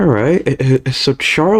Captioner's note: stutter Moment